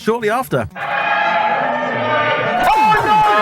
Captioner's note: crowd cheering